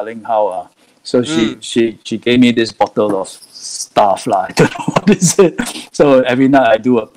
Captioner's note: laughing